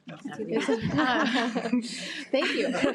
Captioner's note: participants laughing